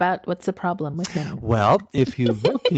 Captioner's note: laughs